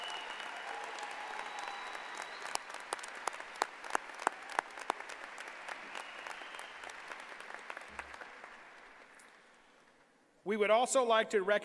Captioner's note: applause